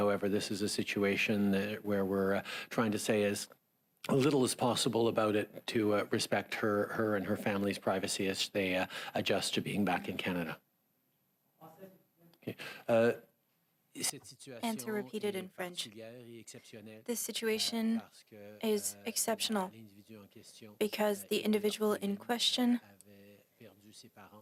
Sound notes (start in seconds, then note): 17.0 speaking French